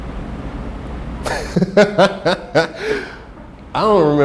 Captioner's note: laughing